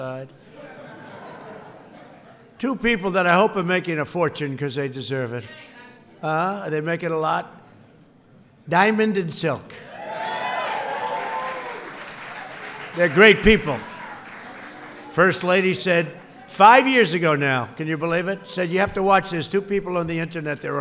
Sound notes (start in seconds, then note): 0.4 laughter; 10.0 applause